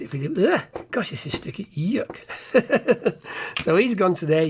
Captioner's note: laughs